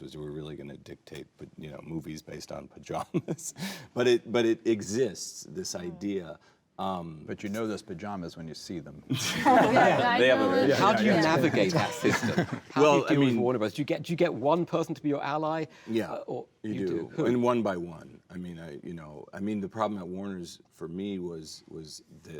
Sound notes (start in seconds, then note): 9.2 laughing; 9.6 overlapping chatter